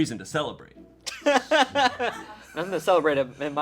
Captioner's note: laughing